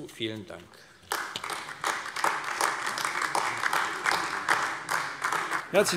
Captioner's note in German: Beifall AfD